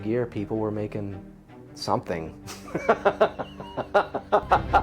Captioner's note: laughs